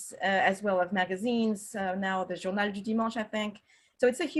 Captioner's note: french